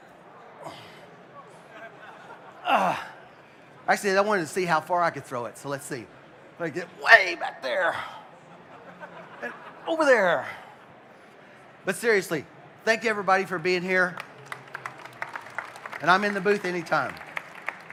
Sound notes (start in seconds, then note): 7.6 laughing; 14.0 applause